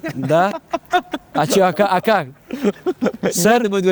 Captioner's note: laughs